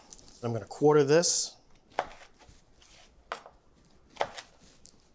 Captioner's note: knife chopping